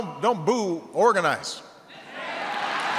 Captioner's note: applause